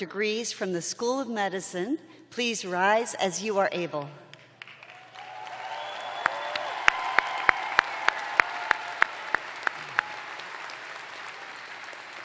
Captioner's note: cheers and applause